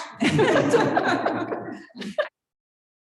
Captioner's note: chuckling